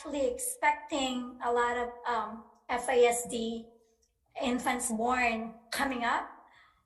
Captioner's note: speaks faintly